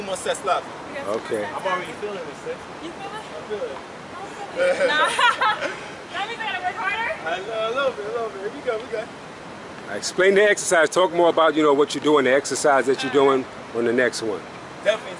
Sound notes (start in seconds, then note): 4.5 both laughing